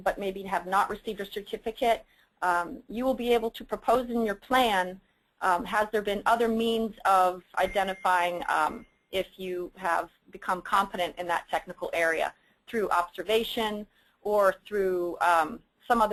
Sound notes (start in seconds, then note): 7.6 ding